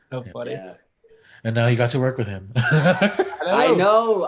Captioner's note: laughs